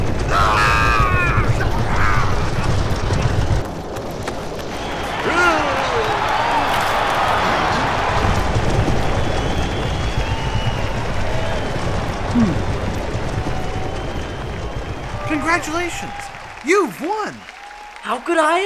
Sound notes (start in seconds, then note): 0.0 hooves thundering; 0.2 screaming; 5.4 cheering; 8.8 hooves thundering